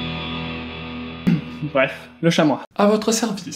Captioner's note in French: Tousse